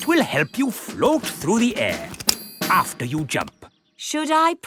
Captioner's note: clicking